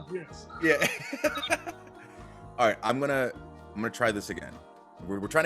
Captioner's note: laugh